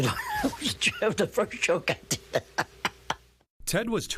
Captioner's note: laughing